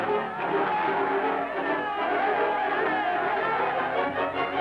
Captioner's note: crowd cheering